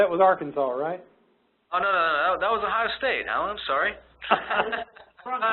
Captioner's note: both laughing